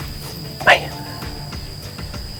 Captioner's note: whispering